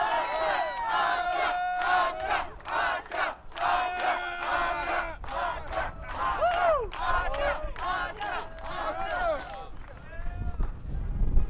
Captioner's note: fans chanting